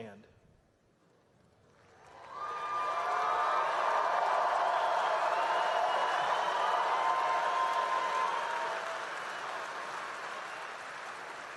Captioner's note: applause